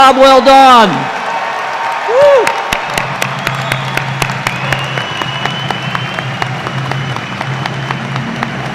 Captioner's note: cheers and applause